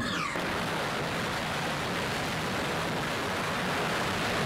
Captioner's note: rocket engine firing